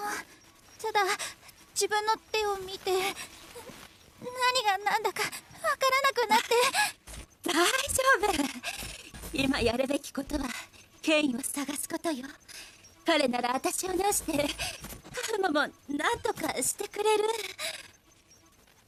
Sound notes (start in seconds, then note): 0.6 sighs; 3.8 whimpers; 6.4 glitching continues